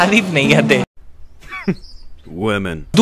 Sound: chuckles

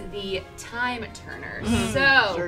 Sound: air whooshing

